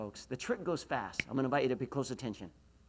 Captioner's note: snaps